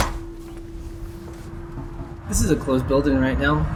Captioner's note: door clicking